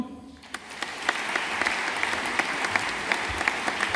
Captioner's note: audience applauding